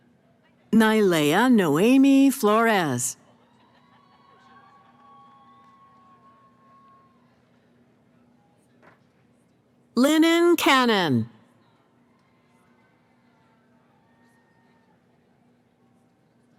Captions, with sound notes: Nayleah Noemi Flores. [ Cheering ] Linen Cannon.